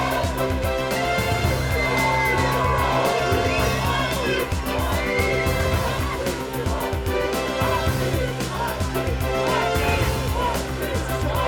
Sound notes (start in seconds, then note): 1.5 fans shouting; 8.6 crowd cheering